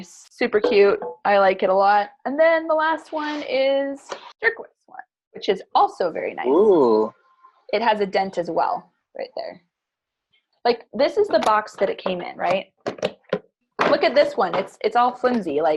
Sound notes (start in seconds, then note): 6.4 moans